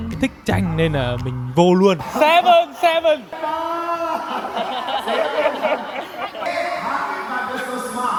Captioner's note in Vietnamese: tiếng cười